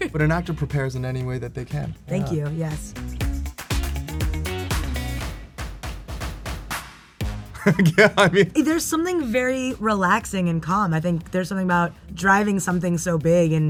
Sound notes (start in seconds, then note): 3.3 upbeat music; 7.6 laughs